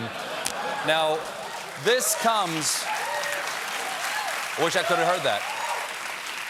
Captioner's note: applause